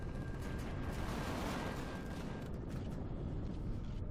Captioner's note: turrets firing